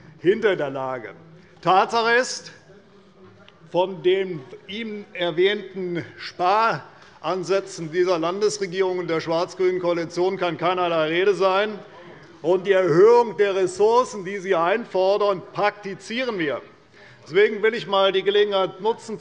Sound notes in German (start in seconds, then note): none